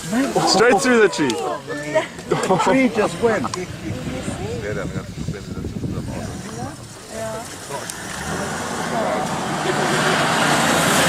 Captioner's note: laughter